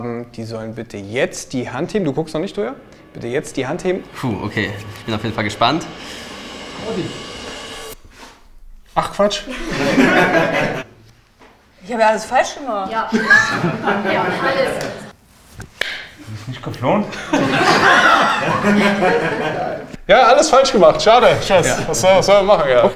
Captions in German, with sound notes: die sollen bitte jetzt die Hand heben. Du guckst noch nicht, Toyah! Puh, okay. Ich bin auf jeden Fall gespannt. Ach Quatsch? Ich habe ja alles falsch gemacht. - Ja. Alles. Du bist nicht geflohen? (alle lachen) Ja, alles falsch gemacht, schade. Was soll man machen?